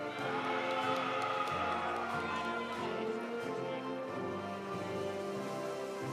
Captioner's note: audience cheering; audience applauding